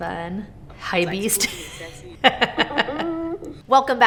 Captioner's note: laughs